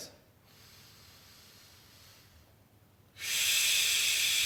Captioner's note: air hisses